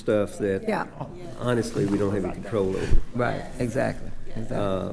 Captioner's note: others agreeing